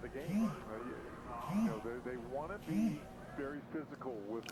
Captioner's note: cell phone buzzing